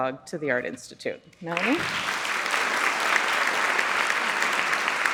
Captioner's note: audience applauds